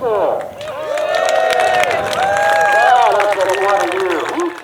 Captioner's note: cheering